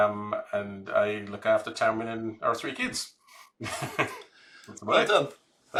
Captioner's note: chuckles